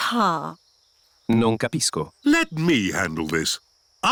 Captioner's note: replies in italian